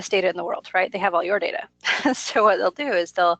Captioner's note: laughs